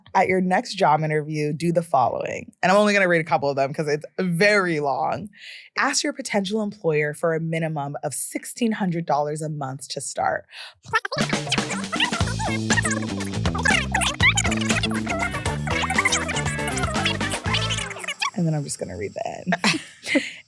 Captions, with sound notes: "At your next job interview, do the following." And I'm only gonna read a couple of them 'cause it's very long. "Ask your potential employer for a minimum of $1,600 a month to start," (voice being sped up) (upbeat music) And then I'm just gonna read the end.